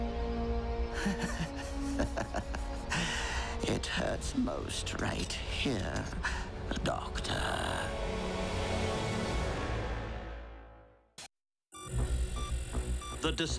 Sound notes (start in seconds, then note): 1.0 laughs